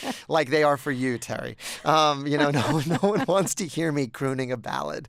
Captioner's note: laughter